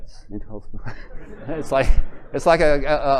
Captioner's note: laughter